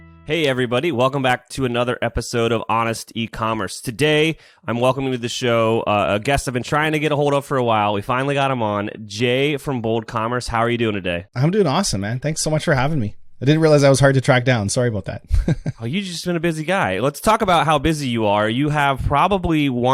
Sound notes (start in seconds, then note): 15.3 laughs